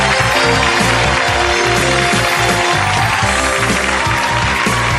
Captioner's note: audience applauding